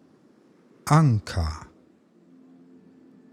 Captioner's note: german